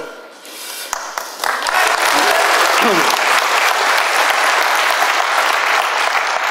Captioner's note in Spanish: aplausos